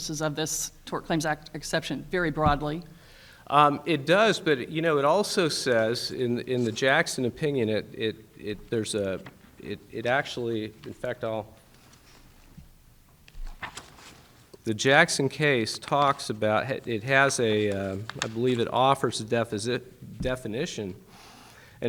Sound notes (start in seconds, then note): 13.2 pages shuffling